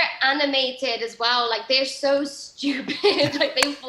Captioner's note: laughs